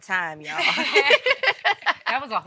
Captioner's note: moms laughing